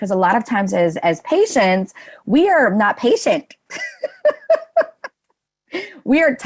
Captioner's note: laughs